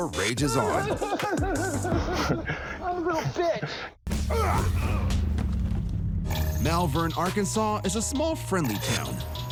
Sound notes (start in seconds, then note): 2.5 chuckles; 4.2 grunting